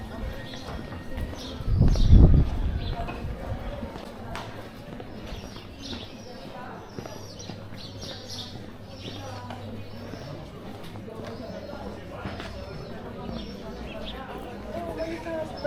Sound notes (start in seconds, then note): 4.6 birds chirping; 11.0 people chattering